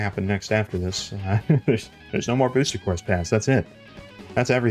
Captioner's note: chuckle